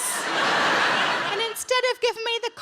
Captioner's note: audience Laughing